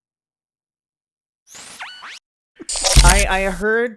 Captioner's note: beeping